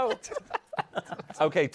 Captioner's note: laughter